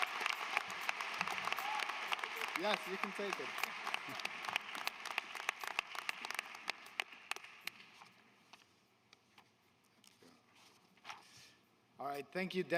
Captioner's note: applause